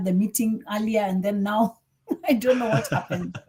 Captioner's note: chuckles